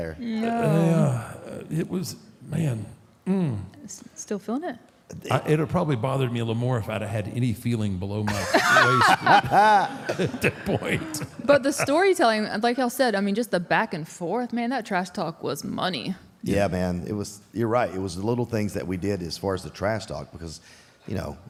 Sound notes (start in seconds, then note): 8.2 laughs